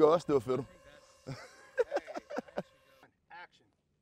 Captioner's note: laughing